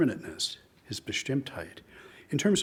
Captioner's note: speaks in foreign language